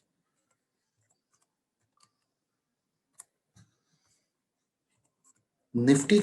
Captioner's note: typing